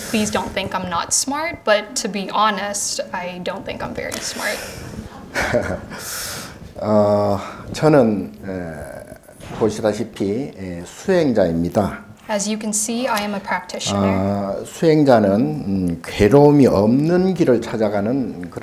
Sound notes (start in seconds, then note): 6.0 speaking Korean; 14.9 speaking Korean